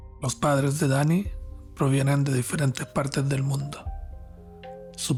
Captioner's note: narrator speaking Spanish